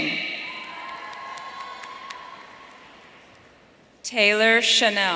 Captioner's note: audience cheering